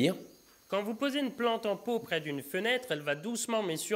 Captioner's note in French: Voix de fond